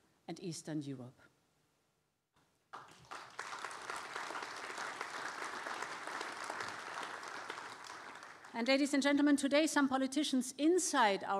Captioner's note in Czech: Potlesk